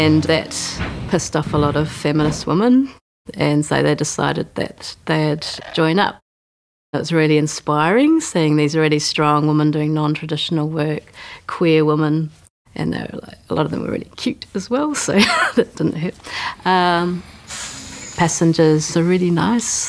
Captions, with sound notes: And, that pissed off a lot of feminist women, and so they decided that they'd join up. That was really inspiring, seeing these really strong women doing non-traditional work. Queer women. A lot of them were really cute, as well, so, (laughs) that didn't hurt. (bus engine idles and bus doors slide open) Passengers are really nice.